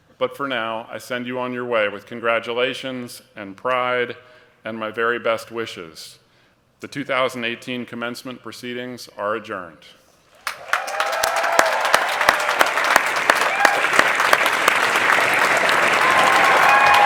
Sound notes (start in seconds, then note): 10.4 cheering and applause